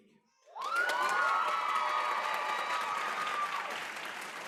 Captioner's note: applause